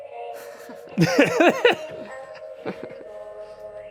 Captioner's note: Shane and Ryan laughing